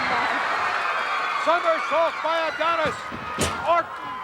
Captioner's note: audience cheering; body thuds